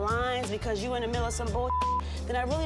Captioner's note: beep